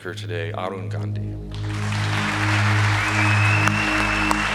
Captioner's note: applause